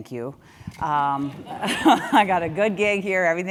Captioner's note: laugh